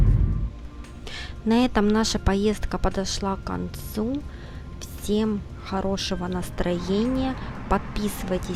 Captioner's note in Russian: закадровый голос